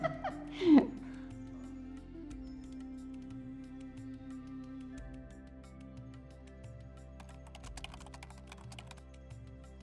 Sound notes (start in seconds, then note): 7.2 keyboard clicking